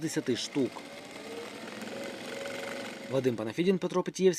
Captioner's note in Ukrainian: Звук швейної машинки